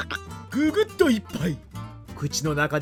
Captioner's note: gulp